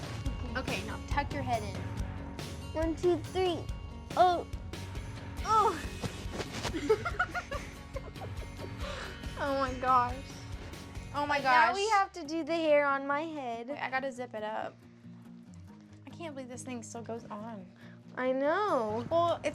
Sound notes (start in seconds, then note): 6.6 laughing